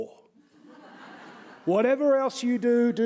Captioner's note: audience laughing